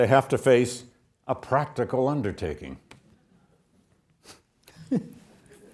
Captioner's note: laughs